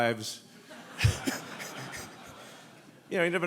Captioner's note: audience laughing